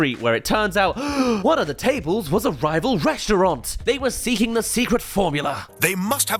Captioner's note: gasp